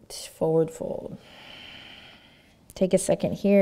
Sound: breathing

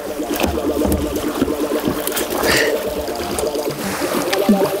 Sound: exhertion

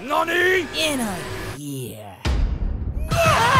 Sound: nooooooooooooooo

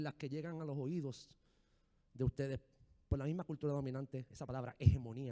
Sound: speaking in foreign language

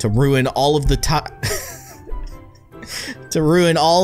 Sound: laughter

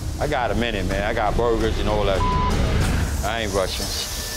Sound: beeping

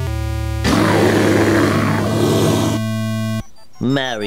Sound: roar

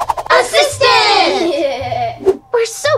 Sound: toys cheer

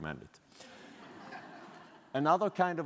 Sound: audience laughing

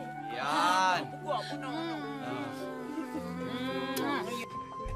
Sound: kisses; dark music playing

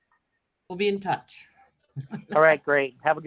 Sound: laughs

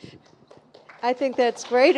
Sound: audience applauding

